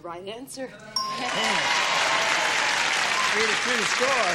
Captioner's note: cheering